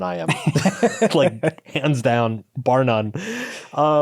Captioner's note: laughs